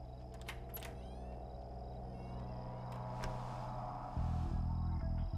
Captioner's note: door opens and closes